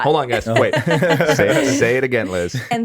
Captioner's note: all laughing